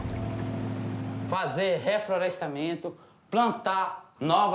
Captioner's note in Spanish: <i>habla en portugués